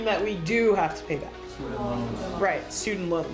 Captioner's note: students murmuring